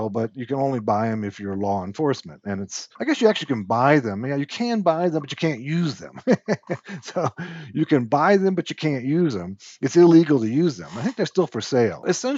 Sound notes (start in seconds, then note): 5.0 laughs